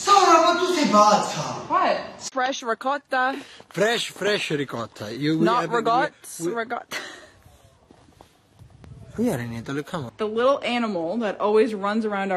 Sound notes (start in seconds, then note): 0.7 shouting; 8.4 laugh